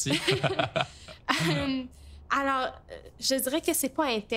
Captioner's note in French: rires